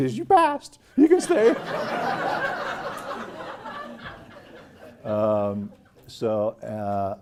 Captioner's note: laugh